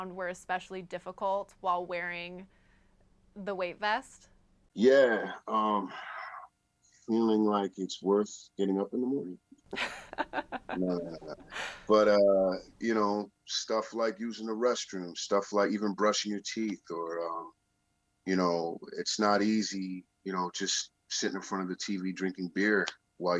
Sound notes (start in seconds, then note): 9.7 laughs